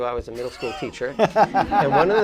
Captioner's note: laughing